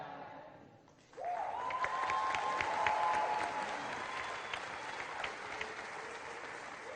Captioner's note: applause